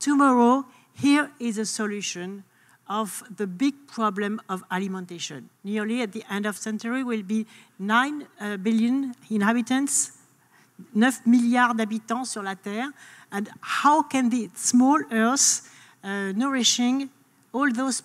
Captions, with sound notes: To my role, here is a solution of the big problem of alimentation. Nearly at the end of century we'll be 9 billion inhabitants, (speaks in foreign language) and how can the small earth nourishing all those people?